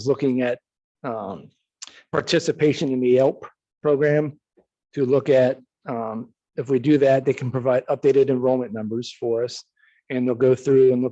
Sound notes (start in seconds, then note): none